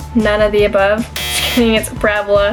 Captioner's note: buzzer